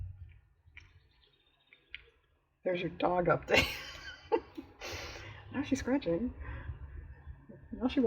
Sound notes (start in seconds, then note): 3.6 laughs